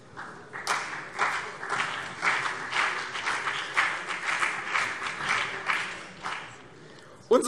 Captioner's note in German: Vereinzelter Beifall CDU und BÜNDNIS 90/DIE GRÜNEN